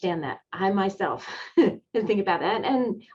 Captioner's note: chuckling